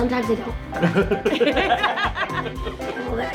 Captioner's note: laughs